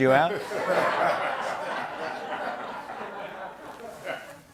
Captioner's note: laughter